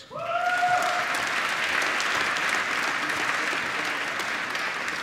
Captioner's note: applause